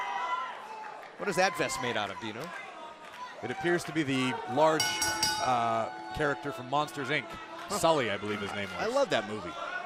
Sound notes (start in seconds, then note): 6.3 bell ringing